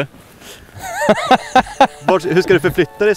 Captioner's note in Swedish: skrattar